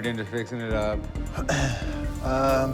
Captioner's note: clears throat